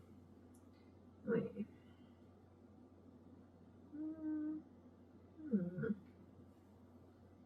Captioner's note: hums